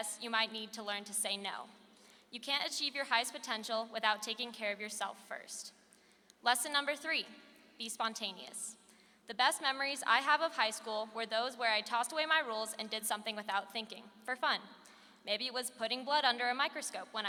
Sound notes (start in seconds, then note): none